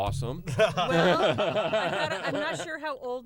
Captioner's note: laughter